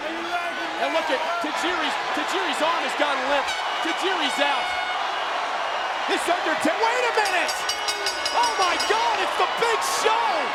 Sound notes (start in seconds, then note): 6.1 crowd cheering